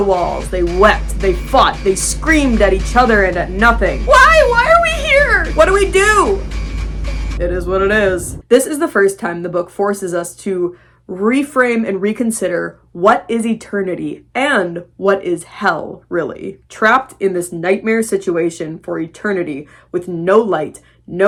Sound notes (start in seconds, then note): 0.0 nightmarish music; 4.1 screaming; 7.1 apathetic voice